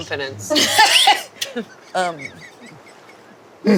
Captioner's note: laughing